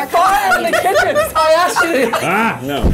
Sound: laughing

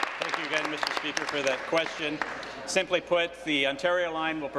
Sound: applause

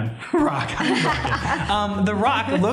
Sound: laughter

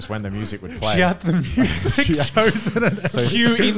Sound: laughing

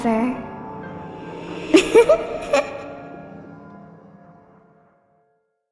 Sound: laughter and spooky music

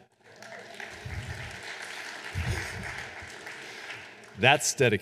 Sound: audience applauding and cheering

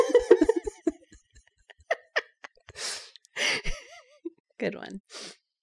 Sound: laugher

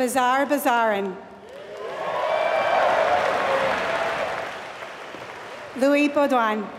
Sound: applause

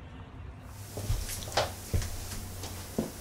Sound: footsteps approaching

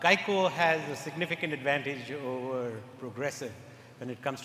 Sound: none

